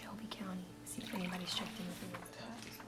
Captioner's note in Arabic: سكب القهوة